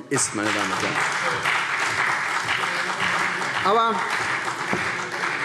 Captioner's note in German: Beifall CDU